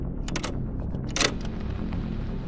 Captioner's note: switch clicks; mechanism clacks; button clicks